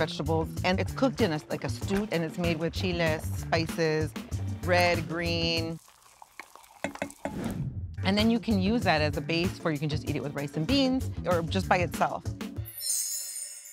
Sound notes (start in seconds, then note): 5.6 food sizzling; 6.3 spoon tapping; 7.3 air whooshing; 12.7 chimes twinkling